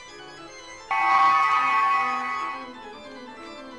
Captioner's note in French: Bruit de téléportation de Star Trek